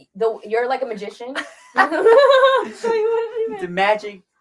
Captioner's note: both laugh